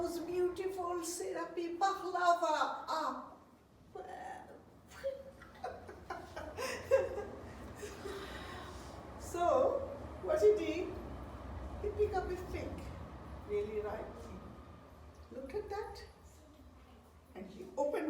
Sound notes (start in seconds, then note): 5.0 laughter